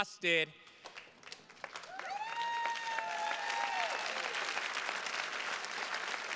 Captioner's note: attendees cheers and claps